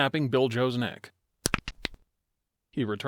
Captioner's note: horrifying neck-snapping sound